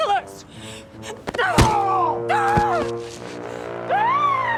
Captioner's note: groaning in pain; Jen screams